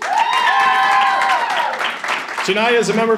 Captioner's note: audience applauding and cheering